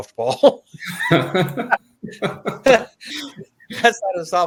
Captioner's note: chuckles